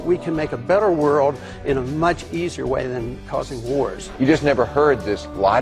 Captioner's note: exasperated voice